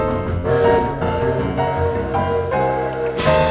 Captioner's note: distress whistle